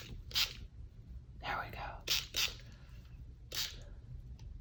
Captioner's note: whispers